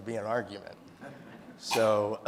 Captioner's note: audience laughing